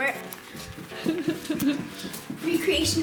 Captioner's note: mother Laughs